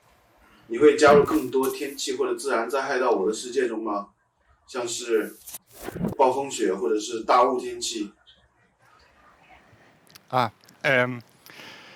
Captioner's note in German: nicht-englische rede